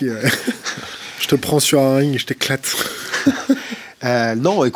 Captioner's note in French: rires; rires